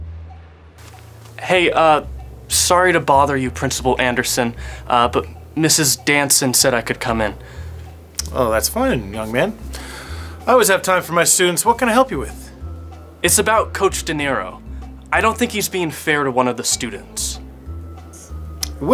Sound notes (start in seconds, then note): none